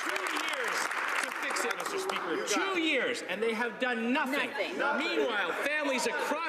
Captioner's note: applause